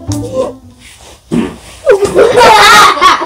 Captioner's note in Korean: 방구소리